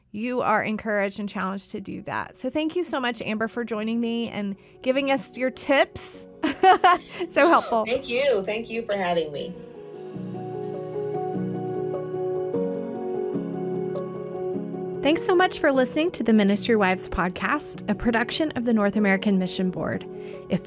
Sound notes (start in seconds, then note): 6.4 chuckles; 10.5 soft instrumental music